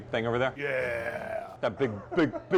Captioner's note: growling